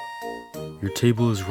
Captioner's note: the king scoffs